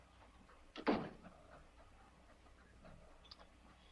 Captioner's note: door closes